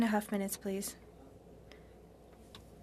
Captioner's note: speaking in French